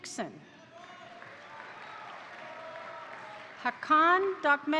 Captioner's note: crowd cheering; crowd applauding